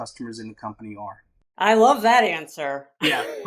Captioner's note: laughs